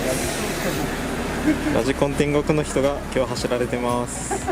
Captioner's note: laughs